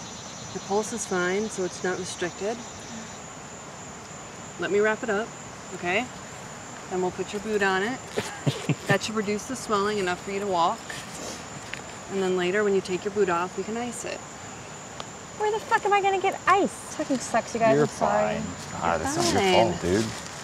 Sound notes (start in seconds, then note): 8.2 David chuckles